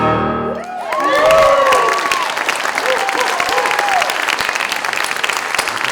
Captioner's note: applause, boisterous cheers